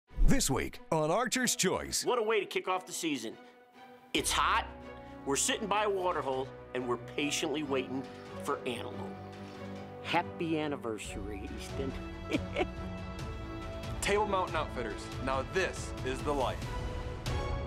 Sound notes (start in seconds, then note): 12.2 chuckles; 17.4 dramatic music